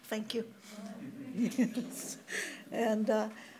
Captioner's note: audience chuckles